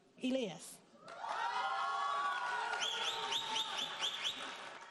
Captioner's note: audience applauding